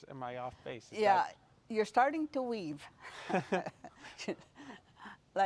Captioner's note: rires